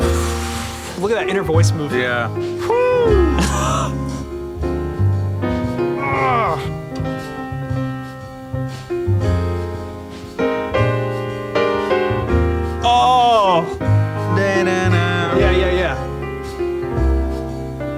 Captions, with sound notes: (mellow piano music) Look at that inner voice movement. - Yeah, woo. (man exclaims loudly) (man exclaims loudly) (man exclaims loudly) (man mimics melody) - Yeah, yeah, yeah, yeah.